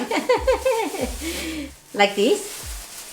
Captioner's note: laughs